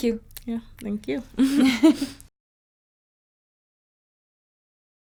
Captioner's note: both laughing